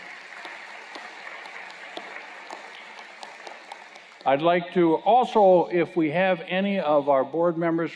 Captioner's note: applause